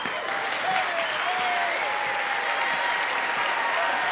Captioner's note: clapping and cheering